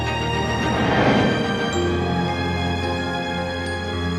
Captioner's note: dramatic music continues; memory image whooshes; somber music